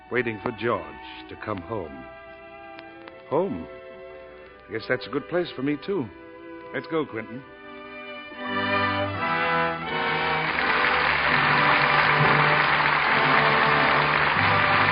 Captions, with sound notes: waiting for George to come home. Home, I guess that's a good place for me too. Let's go, Quentin. (dramatic music) (audience applauding)